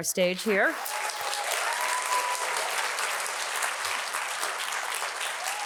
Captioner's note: audience applauding and cheering